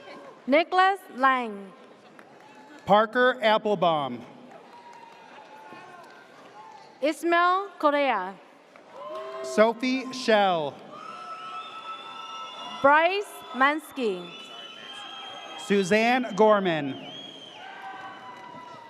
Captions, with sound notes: - Nicholas Lang. - Parker Applebaum. - Ismail Cordaya. (audience cheers) - Sophie Shell. (audience cheers) - Bryce Mansky. - Suzanne Gorman.